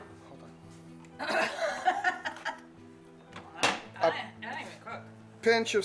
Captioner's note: laughs